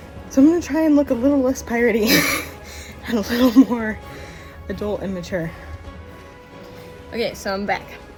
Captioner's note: laugh